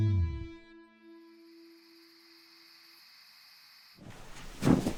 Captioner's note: crickets chirping